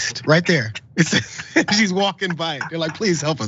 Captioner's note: laugh